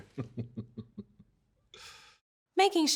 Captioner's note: laughing